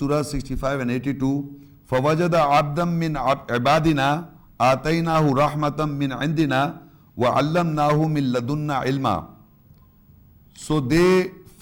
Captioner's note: عربی تلاوت